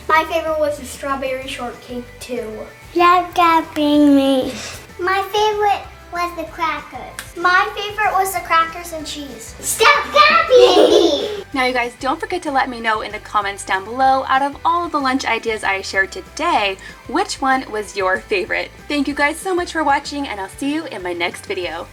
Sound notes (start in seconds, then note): 10.1 laughs